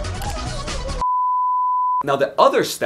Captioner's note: tone beeping